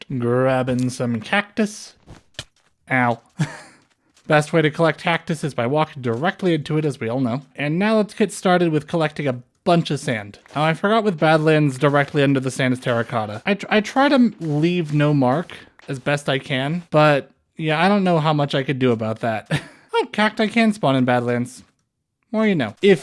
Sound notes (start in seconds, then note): 3.3 chuckle